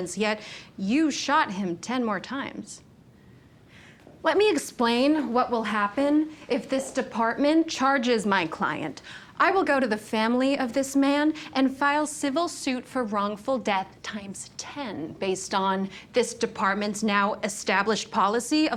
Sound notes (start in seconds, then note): none